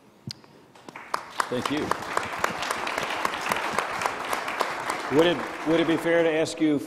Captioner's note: crowd applauding